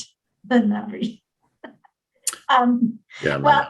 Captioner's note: giggles